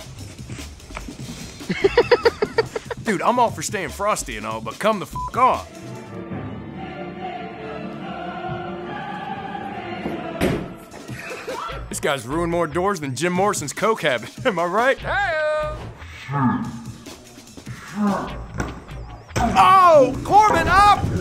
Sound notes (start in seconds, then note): 1.4 laughing; 4.6 operatic music; 5.1 beeps; 10.1 door thudding